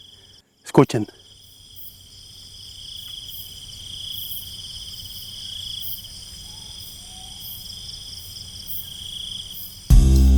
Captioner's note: sounds of nature